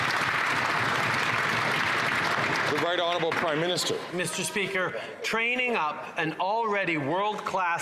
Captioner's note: some Applause